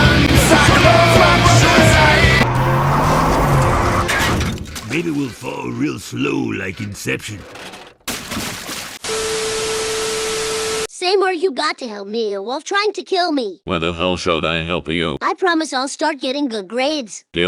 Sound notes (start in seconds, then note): 4.1 crash; 8.1 splash